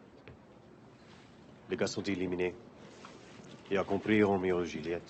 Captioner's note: thugs speaking French